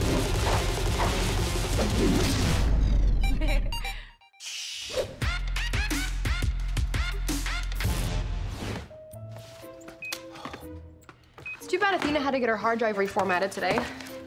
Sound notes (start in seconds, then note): 2.7 theme music plays; 8.7 beeping